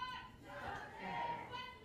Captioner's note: crowd